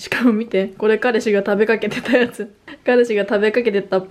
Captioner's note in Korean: 웃음